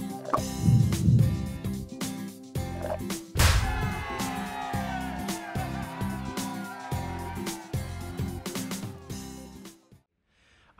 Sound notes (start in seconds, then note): 3.5 audience applauding; 8.3 upbeat music